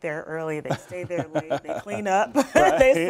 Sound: laughter

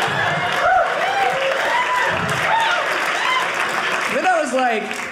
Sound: audience laughing; audience cheering

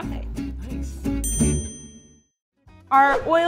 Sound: bell ding

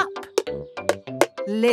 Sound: taping

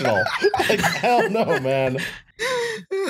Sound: laughter

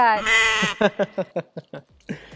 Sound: laughing

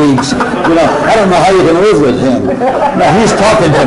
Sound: roars of laughter

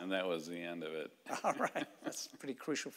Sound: chuckling

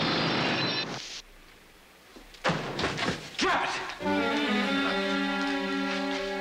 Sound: gunfire continues

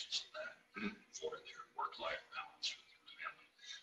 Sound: murmurs

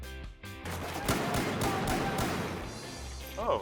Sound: bang bang bang!!!

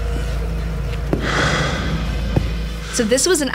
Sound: loud footsteps

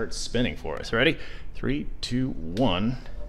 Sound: switch clicks

